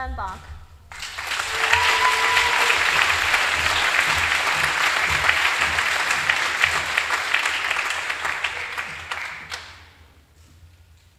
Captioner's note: applause